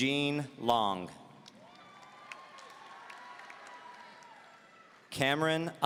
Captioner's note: audience cheering